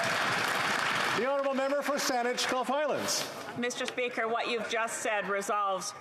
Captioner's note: applause